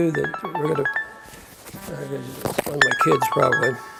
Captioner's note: phone ringing